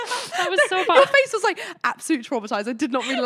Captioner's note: laughing; laughing